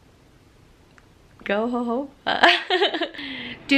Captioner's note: laughs